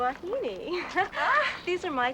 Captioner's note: ladies laughing